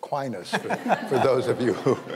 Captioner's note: panel laughing